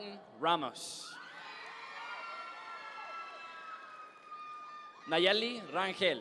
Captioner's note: audience members cheer